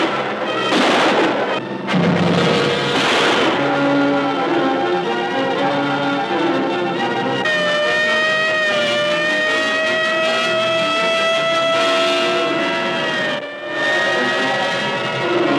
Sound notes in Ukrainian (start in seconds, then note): 0.0 постріли; 9.7 сирени кричать